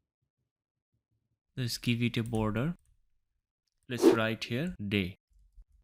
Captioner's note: woosh Sound